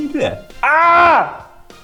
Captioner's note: shouts